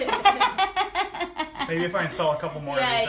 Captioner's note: laughs